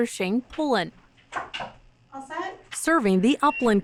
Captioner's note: knock-knock